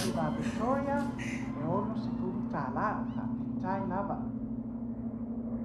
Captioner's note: sobs, sniffles